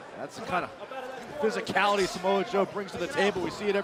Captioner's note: crowd chatter